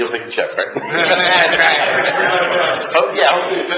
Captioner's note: laughter